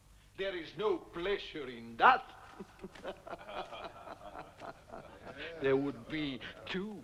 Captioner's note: laughing